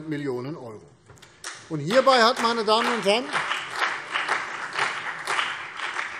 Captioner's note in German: Beifall CDU und BÜNDNIS 90/DIE GRÜNEN